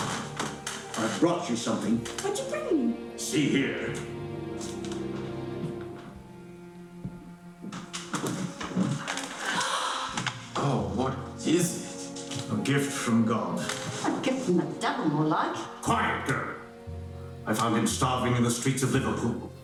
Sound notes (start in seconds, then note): 4.5 soft music; 9.3 gasping